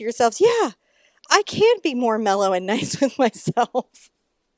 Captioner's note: laughing